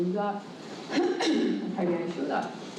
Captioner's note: cough